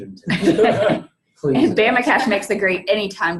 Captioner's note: all laughing